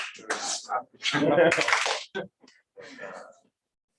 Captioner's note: clap